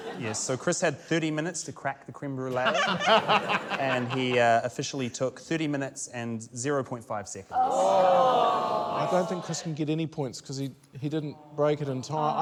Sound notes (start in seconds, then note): 2.5 laughter; 7.5 audience groans